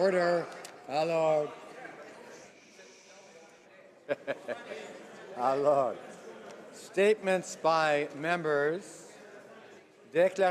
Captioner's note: speaking French